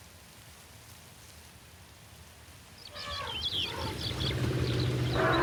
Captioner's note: elephant trumpeting